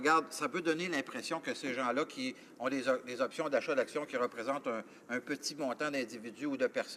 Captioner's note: speaking french